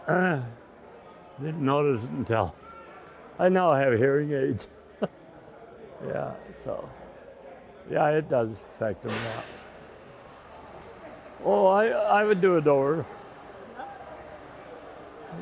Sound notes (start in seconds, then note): 4.9 chuckles